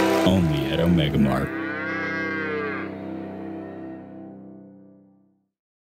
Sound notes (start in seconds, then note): 1.4 cow mooing